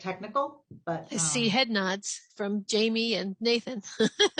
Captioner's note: laughs